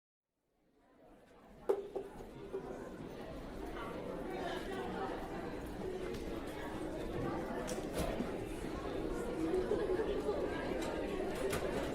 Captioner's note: crowd chattering